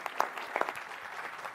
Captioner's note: applause